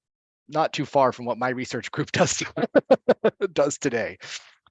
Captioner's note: laughs